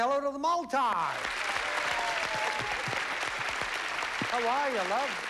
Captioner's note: cheering and applause